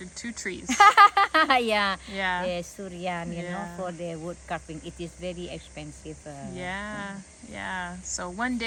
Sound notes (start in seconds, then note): 0.7 laughing